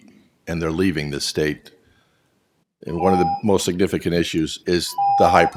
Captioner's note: tone